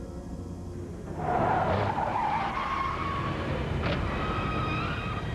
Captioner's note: tires squealing